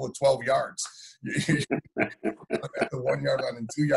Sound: laughing

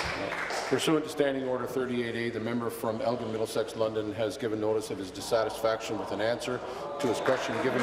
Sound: applause

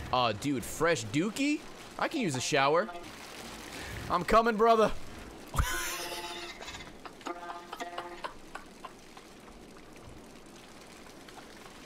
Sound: laughs

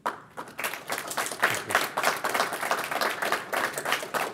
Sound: applause

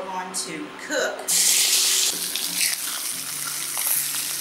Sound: sizzling

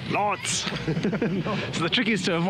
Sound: laughs

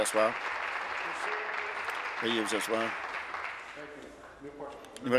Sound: applause

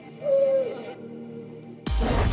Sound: hoots; pop music

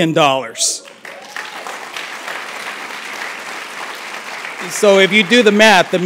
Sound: applause

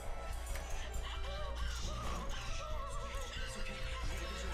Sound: wailing

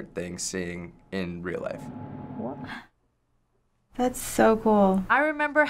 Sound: gasps

